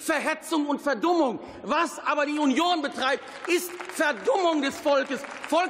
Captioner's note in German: Beifall